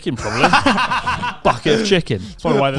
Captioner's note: laughs